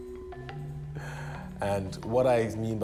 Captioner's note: laughs